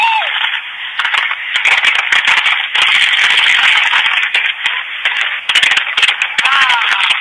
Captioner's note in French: feux d'artifices qui éclatent, gens qui crient